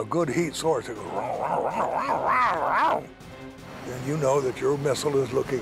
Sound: growling

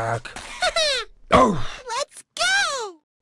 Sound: grunt

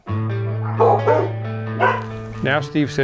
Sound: dogs barking

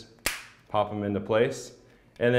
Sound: plastic popping

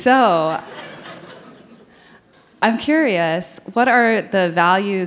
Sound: audience laughing

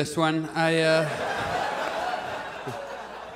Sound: audience laughs

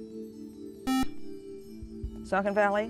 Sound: buzzer

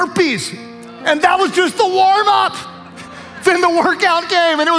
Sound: audience laughs

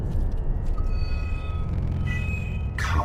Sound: medallion Beeps Strangely

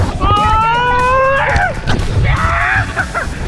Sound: screams

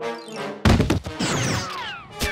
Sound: whirring

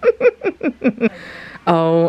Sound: laughs

